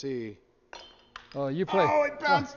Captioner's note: glass clinks